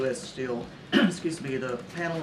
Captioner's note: coughs